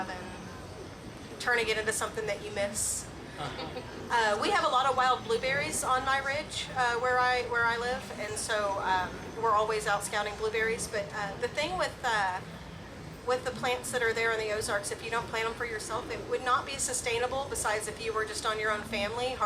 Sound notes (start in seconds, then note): 3.4 laughs